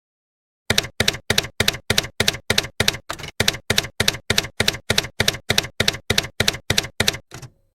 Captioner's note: typewriter keys clacking